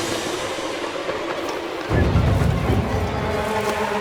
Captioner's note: low whistle